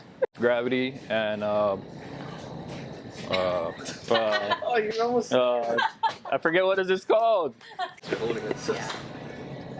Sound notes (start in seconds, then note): 3.9 laughter; 7.7 laughing